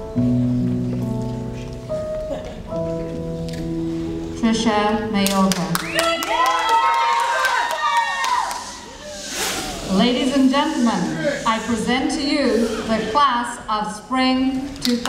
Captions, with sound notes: Trisha Mayorga. (audience cheering and shooshing) Ladies and gentlemen, I present to you the class of Spring 2011.